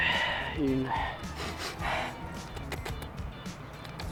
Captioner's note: sniffing intensifies